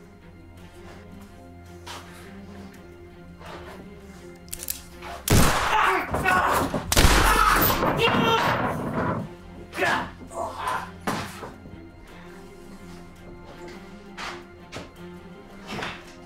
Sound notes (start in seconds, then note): 0.5 tense music continues; 4.4 pistol cocks; 5.2 gunshot blasts; 9.7 Emmett groans; 10.0 tense music continues